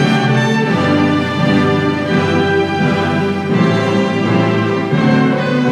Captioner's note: none